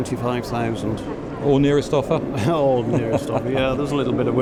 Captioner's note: laughs